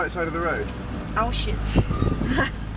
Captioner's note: laughs